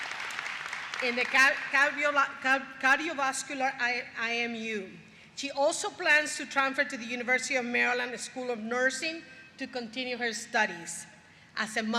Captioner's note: applause